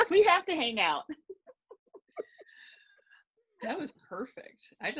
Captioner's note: laughing